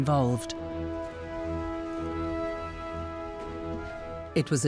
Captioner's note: steps on wooden stairs